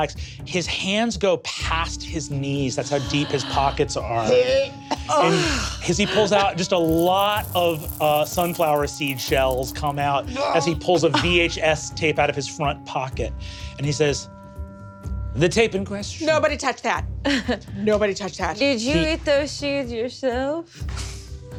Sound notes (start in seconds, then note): 4.3 Izzy retches and Rekha moans